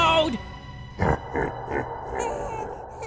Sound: sinister laugter

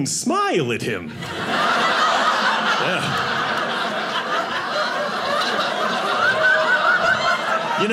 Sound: audience laughing

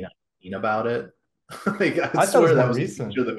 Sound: laughs

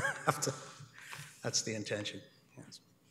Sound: laughs

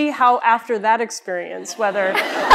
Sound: laughter

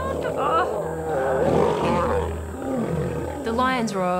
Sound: roars

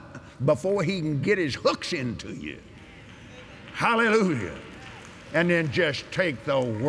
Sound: agreement & Applause

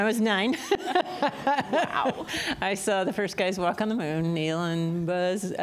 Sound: laughter

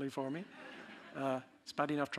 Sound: audience laughing

